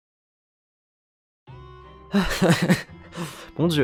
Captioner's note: nervous chuckling